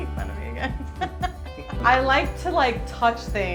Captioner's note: laughs